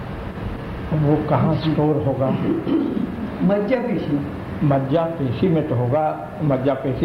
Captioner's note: discussion in Hindi